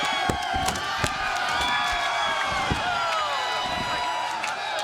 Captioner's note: crowd cheering